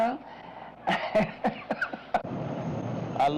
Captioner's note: laughs